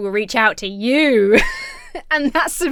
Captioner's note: laughs